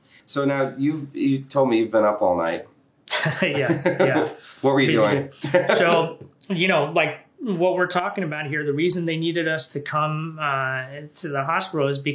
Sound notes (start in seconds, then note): 3.1 laughing